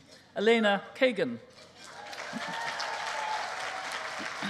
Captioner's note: cheering